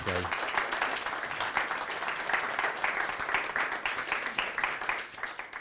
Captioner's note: audience applauding